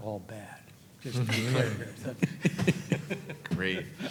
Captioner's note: all laughing